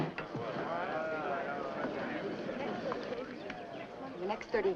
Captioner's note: crowd murmuring